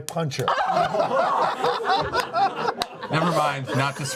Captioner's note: laughter